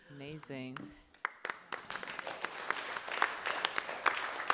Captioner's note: applause